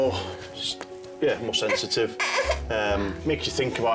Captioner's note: whines